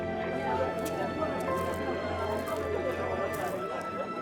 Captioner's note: people chattering